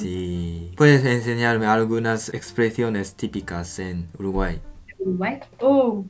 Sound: Spanish

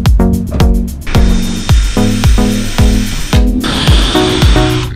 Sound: drilling

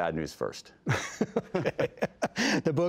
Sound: laughter

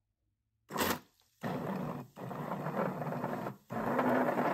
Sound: blender whirring

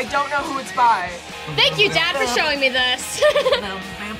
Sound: laughs

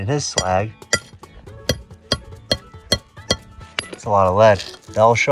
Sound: hammer clinking

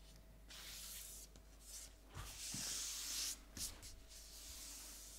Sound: paper scratching

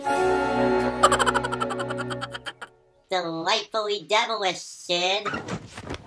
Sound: chortling

